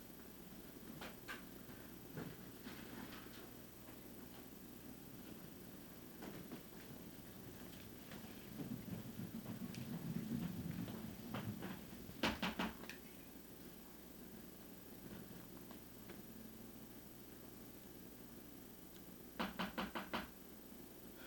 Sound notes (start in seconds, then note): 12.2 knocking on door